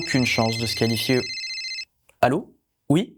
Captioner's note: phone ringing